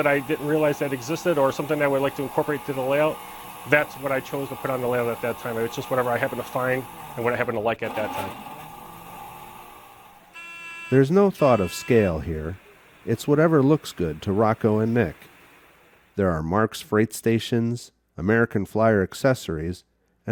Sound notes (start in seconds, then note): 11.2 voiceover